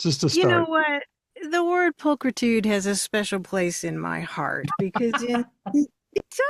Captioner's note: laughter